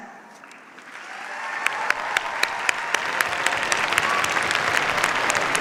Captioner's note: cheers, applause